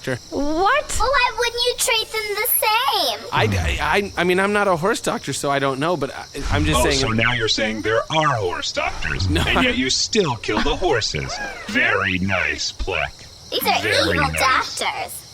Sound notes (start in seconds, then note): 3.7 stammering